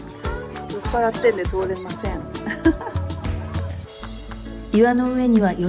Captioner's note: laugh